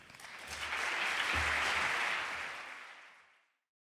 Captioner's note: audience applauding